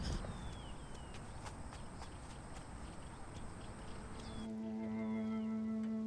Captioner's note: footsteps tapping; somber music